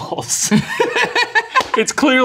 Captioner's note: laughing